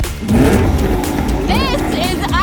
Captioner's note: engine revs